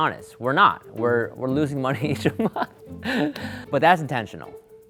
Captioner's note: laughs